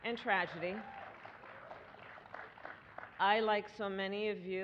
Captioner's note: applause